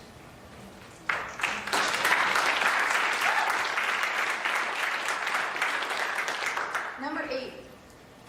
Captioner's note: applause